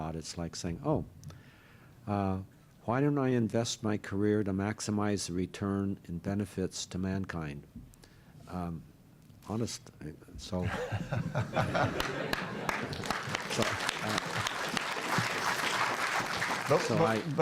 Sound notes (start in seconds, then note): 10.6 laughter; 11.7 applause